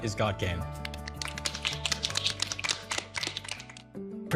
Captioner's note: applauding